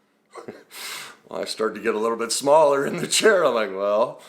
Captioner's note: laughs